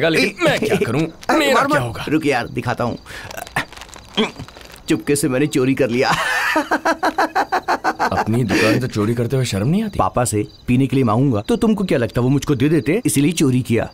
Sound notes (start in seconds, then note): 3.2 paper crinkling; 5.8 laughing